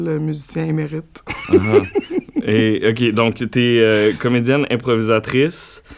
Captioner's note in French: rires